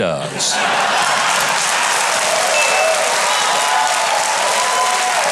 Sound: audience cheering and clapping

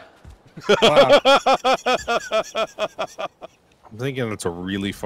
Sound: laughter

